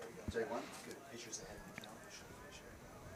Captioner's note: indistinct chatter